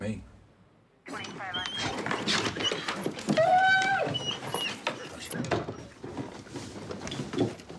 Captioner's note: dog whining; police radio chatter